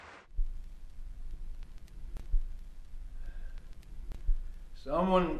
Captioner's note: record static skipping